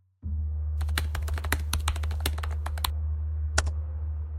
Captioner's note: keyboard clacking